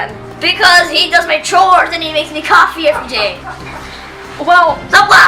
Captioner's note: laughing in the background